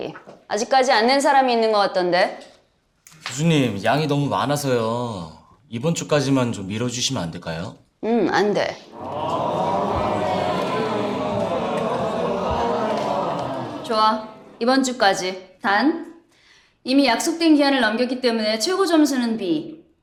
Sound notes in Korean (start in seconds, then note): 8.9 야유 소리